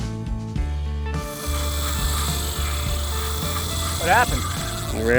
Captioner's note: fishing line whirring